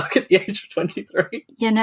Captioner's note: laughs